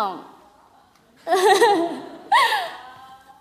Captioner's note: laugh